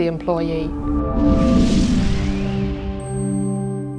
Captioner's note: whooshing